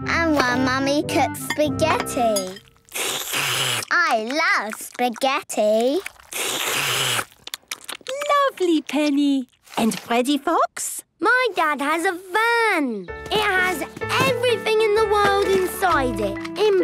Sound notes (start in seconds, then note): 2.9 slurping; 6.4 all slurping